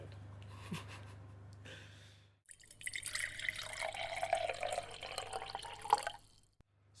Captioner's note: laughter; transition – hot water is poured into a mug